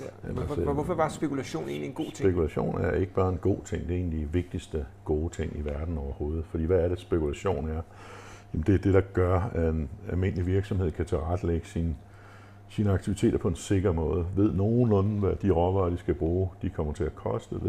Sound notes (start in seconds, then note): none